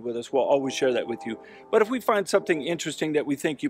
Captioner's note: train horn blares